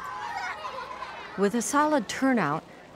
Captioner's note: kids playing